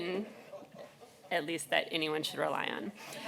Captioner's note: laughter